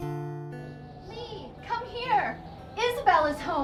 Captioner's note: wind whistling